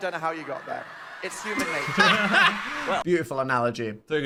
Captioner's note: both laughing